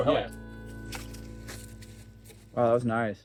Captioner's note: rope noises